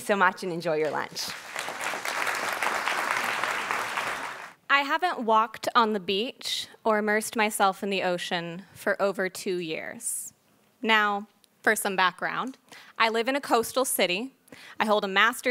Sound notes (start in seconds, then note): 0.9 applauding